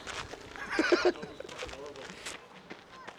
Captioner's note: laughter